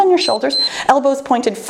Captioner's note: timer beeps